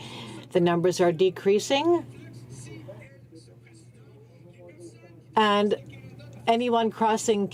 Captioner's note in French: voix de l'interprte